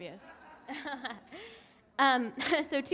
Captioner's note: laughing